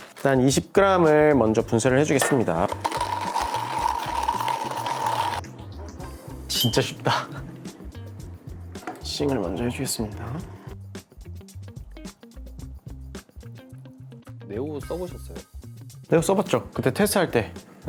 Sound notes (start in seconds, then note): 2.3 grinding